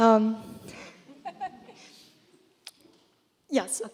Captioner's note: laughter